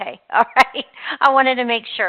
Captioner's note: laughing